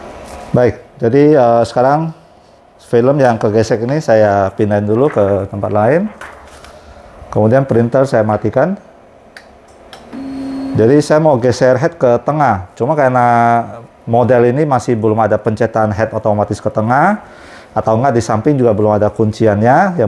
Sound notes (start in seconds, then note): 6.0 PET film noise; 9.1 button noise; 10.1 printer machine noise